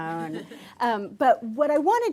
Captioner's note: laughter